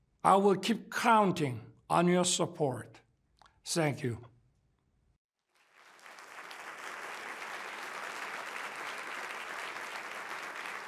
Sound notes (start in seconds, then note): 5.4 applause